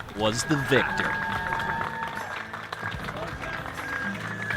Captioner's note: crowd cheering